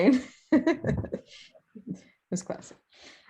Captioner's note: laughs